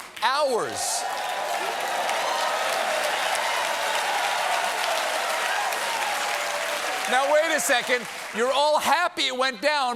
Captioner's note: cheers and applause